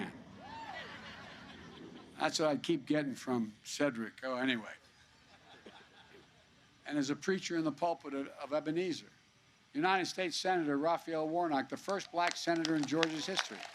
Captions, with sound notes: (Laughter.) That's what I keep getting from Cedric. Oh, anyway. (Laughter.) And as a preacher in the pulpit of Ebenezer -- United States Senator Raphael Warnock, the first Black senator in Georgia's history.